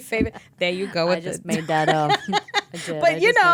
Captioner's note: laughing